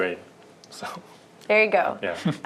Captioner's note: laughter